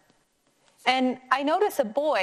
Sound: none

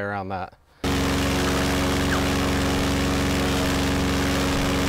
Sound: airboat motor roaring

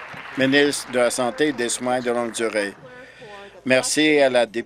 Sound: applause

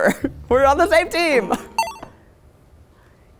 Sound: laughs

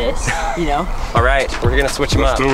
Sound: host laughs

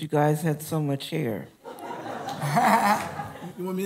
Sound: laughter

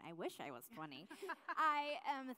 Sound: laughs

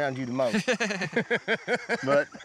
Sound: everyone laughs

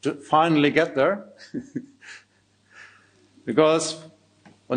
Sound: chuckling

